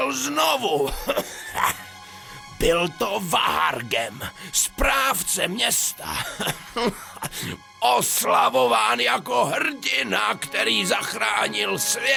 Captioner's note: cough